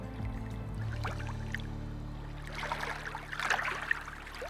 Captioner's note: water sloshing